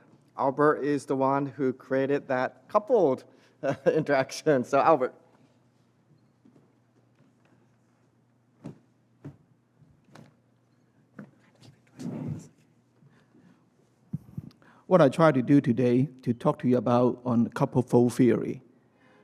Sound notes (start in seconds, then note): 10.4 whispers